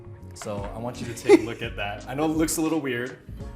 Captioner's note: laughing